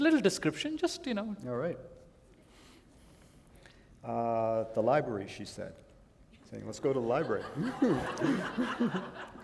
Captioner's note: laughter